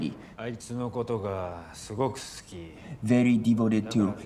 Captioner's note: speaking in foreign language